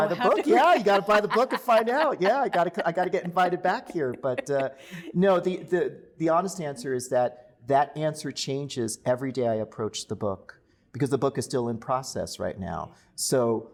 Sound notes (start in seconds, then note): 3.1 laughter